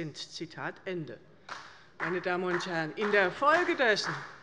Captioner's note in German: Beifall bei der CDU und dem BÜNDNIS 90/DIE GRÜNEN